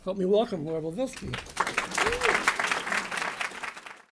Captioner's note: applause